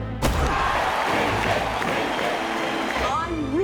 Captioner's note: chanting